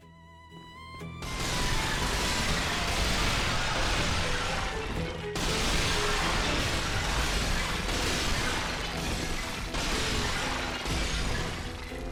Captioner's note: sounds of amphorae being smashed